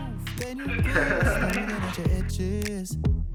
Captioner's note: laughs